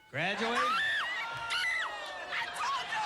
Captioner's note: screaming